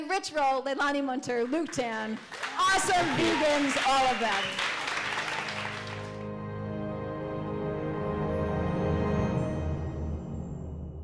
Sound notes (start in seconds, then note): 4.7 clapping; 4.9 light orchestral music